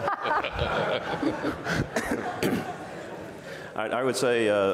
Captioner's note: audience and panel laughs